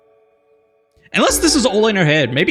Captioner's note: none